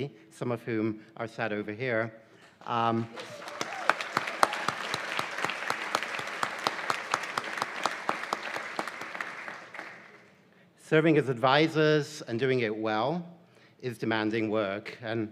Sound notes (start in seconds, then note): 3.0 cheers and applause